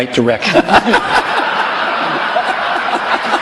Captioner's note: laughter